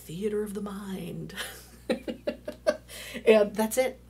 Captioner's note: laughing